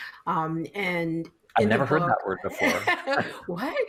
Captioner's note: laughing